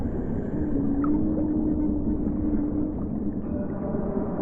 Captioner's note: distant whale song; sounds of a city muffled by water